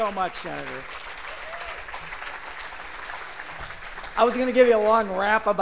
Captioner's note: cheers and applause